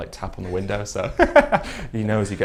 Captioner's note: laughs